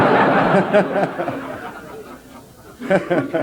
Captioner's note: general laughter